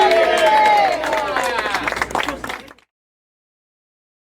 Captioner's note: applauding and cheering